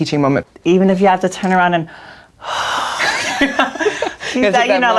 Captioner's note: exhales and laughs